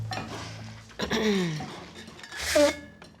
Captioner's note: Angela clears throat; Dale blows nose